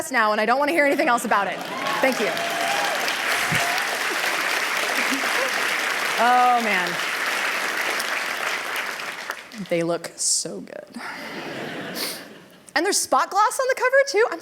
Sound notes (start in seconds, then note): 5.7 applause; 11.2 laughter